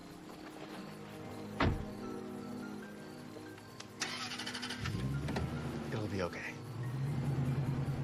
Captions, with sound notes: (engine starting) It'll be okay.